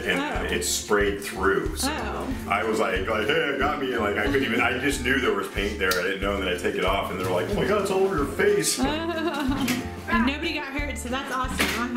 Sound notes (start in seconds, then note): 8.8 laughter